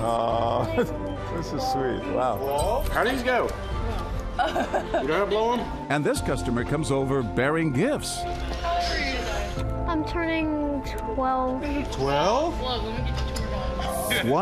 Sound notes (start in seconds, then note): 0.1 laughs; 4.4 laughs